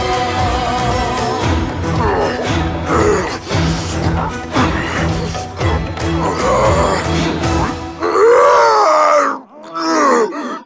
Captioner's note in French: bruits de garon qui souffre